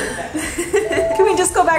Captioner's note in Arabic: يضحك